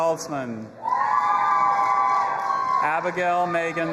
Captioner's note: audience applauding and cheering